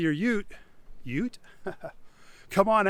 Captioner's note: laughs